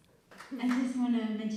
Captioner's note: applause